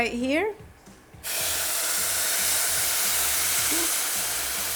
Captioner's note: water hisses